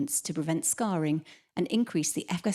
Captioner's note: none